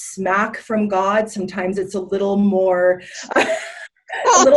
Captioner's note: laughs